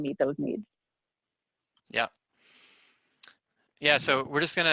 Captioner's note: pause